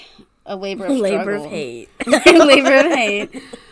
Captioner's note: laughs